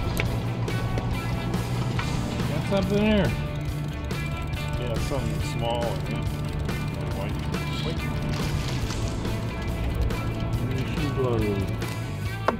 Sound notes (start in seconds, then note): 4.1 sound of line reeling